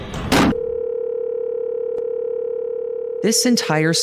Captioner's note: phone ringing